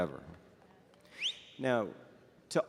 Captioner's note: audience member whistling